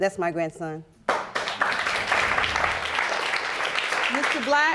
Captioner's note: audience applauding